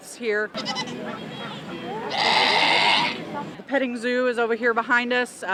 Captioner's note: goat sounds